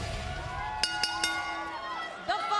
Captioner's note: bell chimes